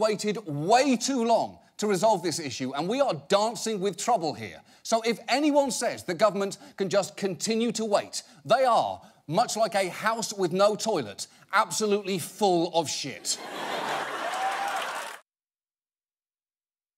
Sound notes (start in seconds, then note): 13.3 audience laughs, applauds